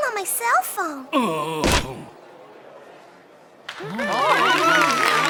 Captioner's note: George groaning; audience applauding